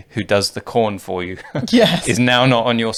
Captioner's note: laughing